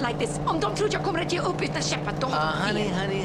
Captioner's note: speaking in foreign language